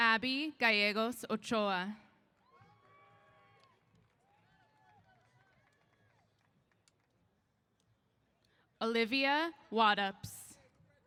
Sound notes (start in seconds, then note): 2.4 applause & Cheers